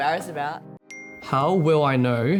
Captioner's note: phone pings